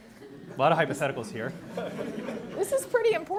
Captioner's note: audience laughing